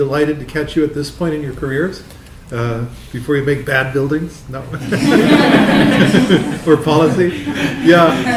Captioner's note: laughter